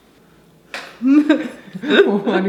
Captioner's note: laughing